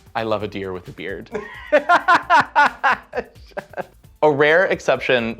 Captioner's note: laughing